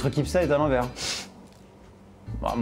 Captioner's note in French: souffle du nez